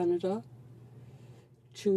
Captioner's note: speaking French